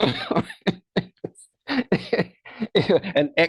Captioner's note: laughs